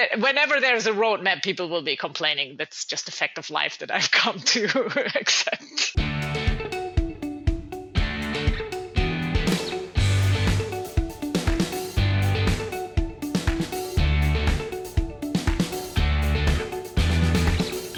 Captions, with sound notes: whenever there's a roadmap, people will be complaining. That's just a fact of life that I've (laughs) come to except. (cheerful music)